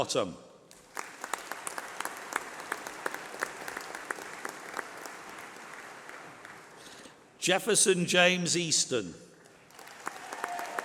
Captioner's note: applause